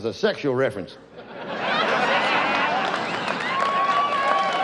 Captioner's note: audience laughs